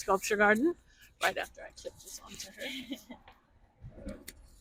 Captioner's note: laughs